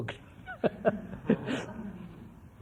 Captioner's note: laughs